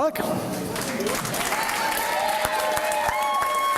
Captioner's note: applause